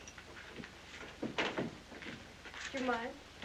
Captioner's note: door closes